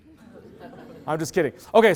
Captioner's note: loud laughter